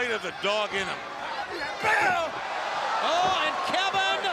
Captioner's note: crowd cheering